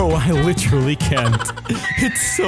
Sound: gasp

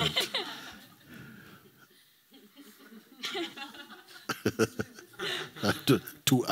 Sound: laughter

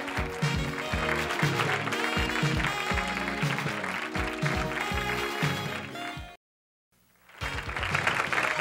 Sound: theme music; audience applause; theme music

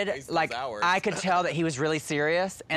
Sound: none

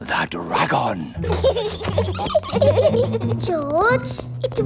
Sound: both giggling

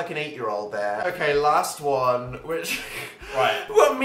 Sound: laughs

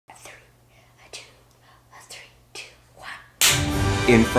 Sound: clap; dramatic music

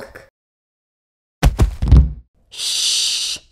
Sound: thud

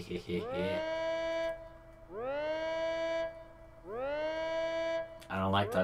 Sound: sirens

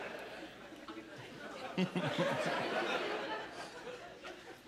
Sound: chuckling

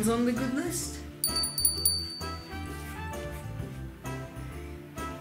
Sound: bell ringing

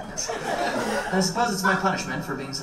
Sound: audience laughs

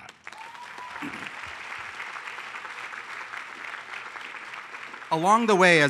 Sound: applause

